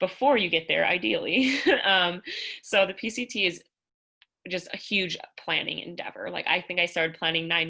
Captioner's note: laughter